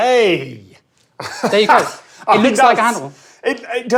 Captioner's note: laughs